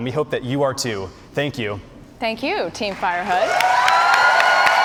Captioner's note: cheers and applause